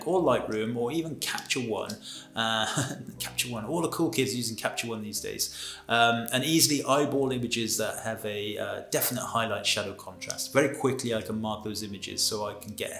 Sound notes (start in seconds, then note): 2.5 he laughs